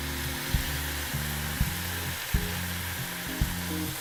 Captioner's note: loud sizzle